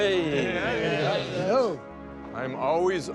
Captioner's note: overlapping greetings